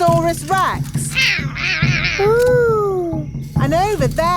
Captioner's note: roaring